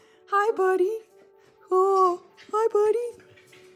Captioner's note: howling